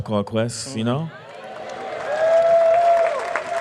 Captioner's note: audience applause